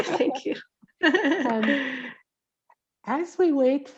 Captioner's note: laughing